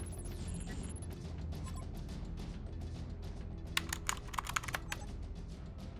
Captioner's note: monitor blips and whirrs; monitor blips